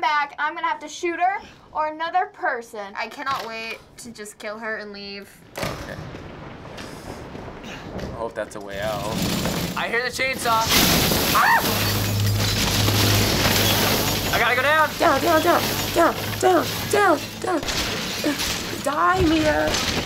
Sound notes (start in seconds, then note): 10.8 grinding; 11.8 wood splintering